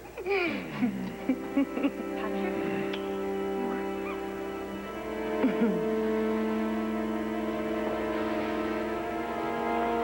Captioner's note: laughter